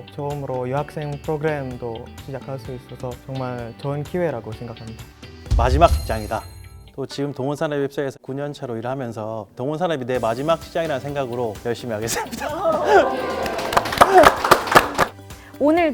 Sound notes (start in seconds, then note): 12.7 clap